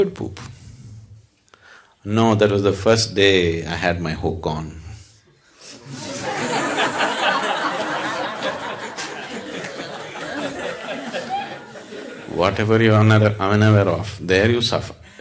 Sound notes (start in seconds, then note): 9.9 laughter